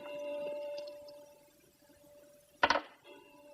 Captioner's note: clock chiming